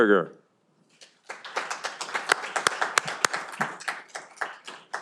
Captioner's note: audience applauding